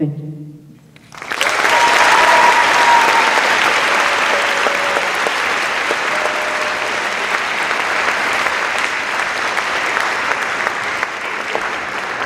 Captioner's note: applause